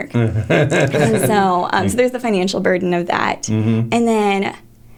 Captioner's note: laughter